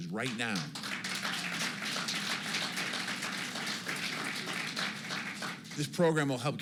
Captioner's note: applause